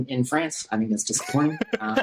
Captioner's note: laughter